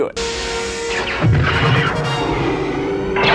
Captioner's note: laser sounds